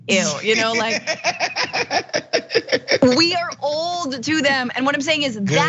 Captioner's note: laugh